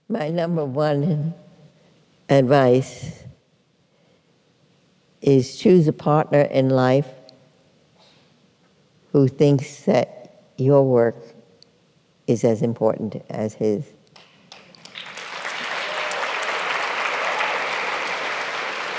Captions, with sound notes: My number one advice is choose a partner in life who thinks that your work is as important as his. [APPLAUSE]